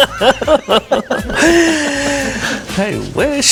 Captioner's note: laughter